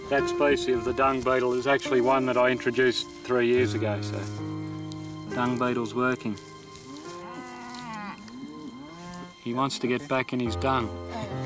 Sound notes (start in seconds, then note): 6.8 cow lowing; 11.0 chuckles